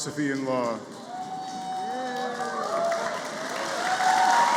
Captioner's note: applause